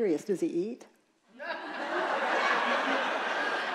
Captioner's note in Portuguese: risos da plateia